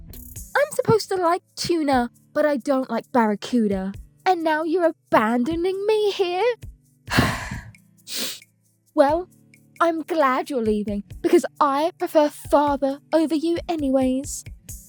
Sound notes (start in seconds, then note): 7.1 Julia sighs